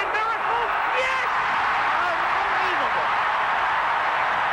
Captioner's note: voiceover; crowd roaring